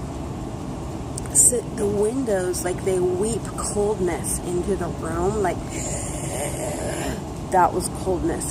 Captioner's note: dry throat ice zombie sound